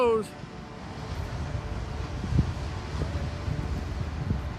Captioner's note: gushing water sound